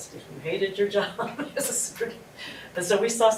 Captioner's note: laugh